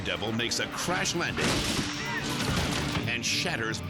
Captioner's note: bike crashing; people yelling